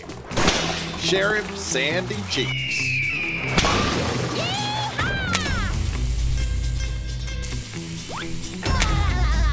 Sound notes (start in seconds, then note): 3.5 whip cracking; 8.4 whining